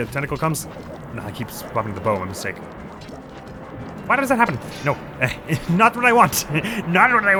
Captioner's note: panicked noises